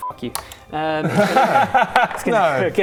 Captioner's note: unsympathetic laughter